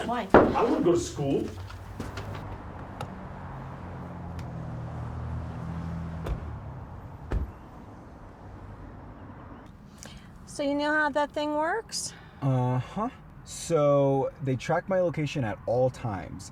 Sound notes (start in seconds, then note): 2.6 traffic droning; 7.2 car doors thud; 9.5 birds chirping